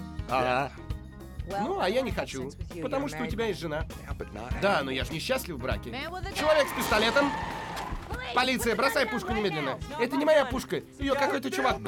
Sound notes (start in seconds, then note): 6.4 tires screech